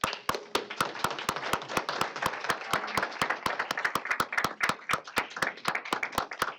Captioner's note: applause